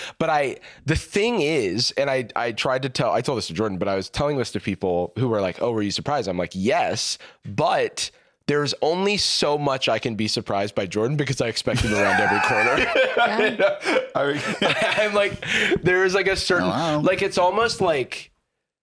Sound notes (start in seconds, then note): 11.7 laughing